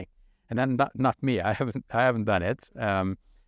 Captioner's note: speaking in Arabic